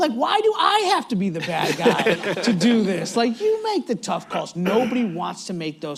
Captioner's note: laughter